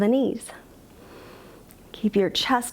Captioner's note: inhales